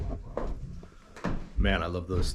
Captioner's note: footsteps